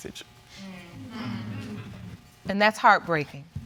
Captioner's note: audience exclaiming